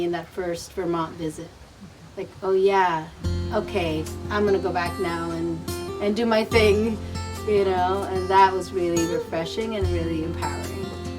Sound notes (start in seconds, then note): 2.0 group murmuring; 4.2 gentle music